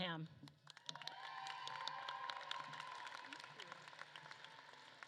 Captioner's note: audience claps and cheers